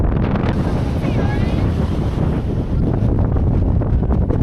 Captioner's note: massive wind hitting upon reaching the top